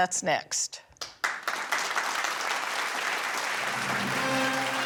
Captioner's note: audience applauding; theatrical music